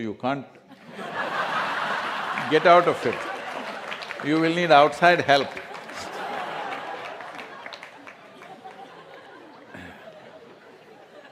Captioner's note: laughter/Applause; laughter